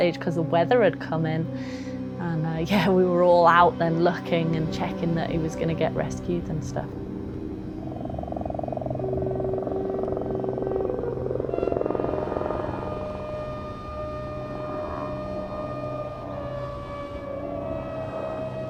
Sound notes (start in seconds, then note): 8.7 suspenseful music continues; 11.9 helicopter blades whirring